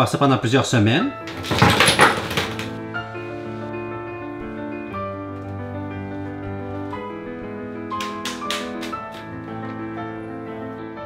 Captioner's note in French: raffut